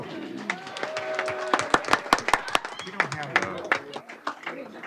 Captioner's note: applause